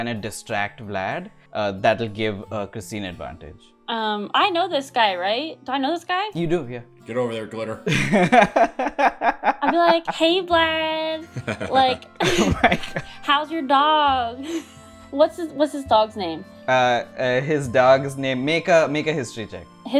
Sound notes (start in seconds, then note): 7.8 laughter; 12.1 laughter